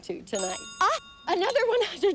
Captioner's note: bell ringing